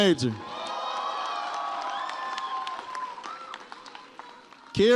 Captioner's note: audience cheers